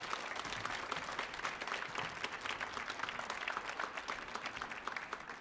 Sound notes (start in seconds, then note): 0.0 audience applauding